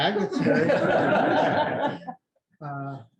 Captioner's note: laughter